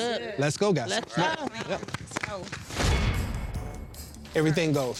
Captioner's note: all applauding